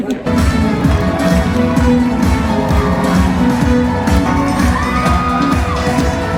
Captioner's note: upbeat music; crowd cheers